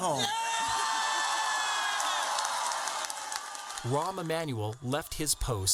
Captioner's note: crowd cheering